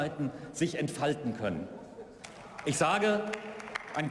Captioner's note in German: Beifall